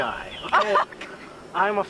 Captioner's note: laughter